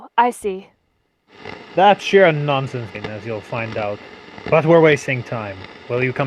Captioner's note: recording on radio